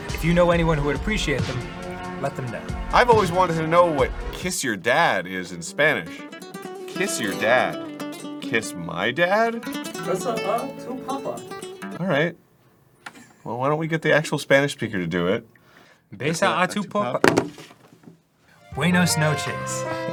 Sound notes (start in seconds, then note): 17.2 drops phone